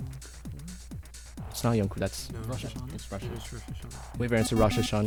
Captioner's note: wispering